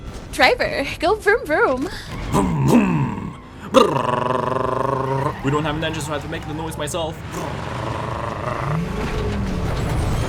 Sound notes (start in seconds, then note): 7.3 more Brrrrrrr